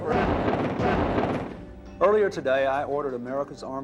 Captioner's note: explosions